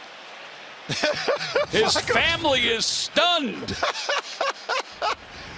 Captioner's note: laughing